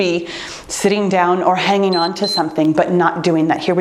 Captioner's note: timer beeps